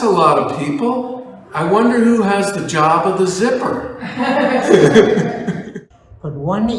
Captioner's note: laughs